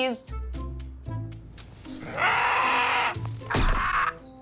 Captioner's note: mallet squeaks; bird squawks